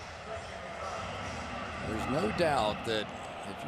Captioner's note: pa announcement